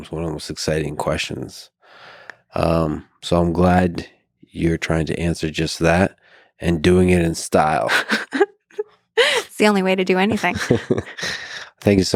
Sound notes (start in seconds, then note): 8.0 laughs